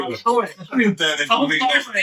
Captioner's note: laughing